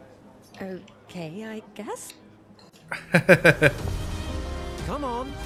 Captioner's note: laughs